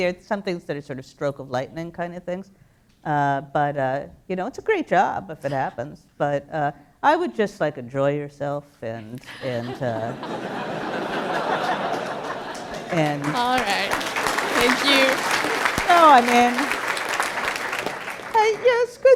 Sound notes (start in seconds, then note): 9.2 laughter; 13.8 applause